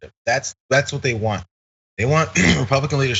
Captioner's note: cough